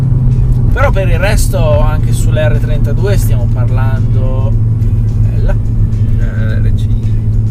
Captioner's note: Renault R5 drives